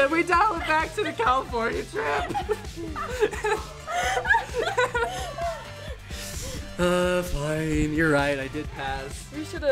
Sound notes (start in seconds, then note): 1.9 laugh